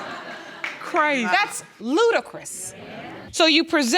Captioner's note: audience laughing; audience agreeing